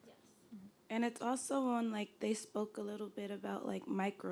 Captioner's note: voiceover